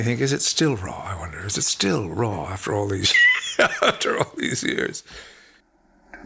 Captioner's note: laughs